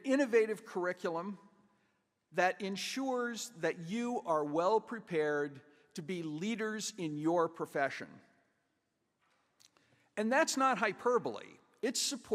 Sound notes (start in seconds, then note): none